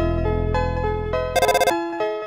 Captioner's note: ring